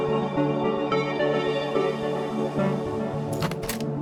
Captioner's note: bullet loaded